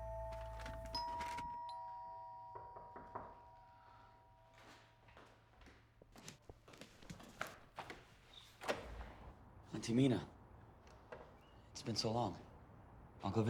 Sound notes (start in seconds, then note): 0.0 doorbell chimes; 3.2 knock on door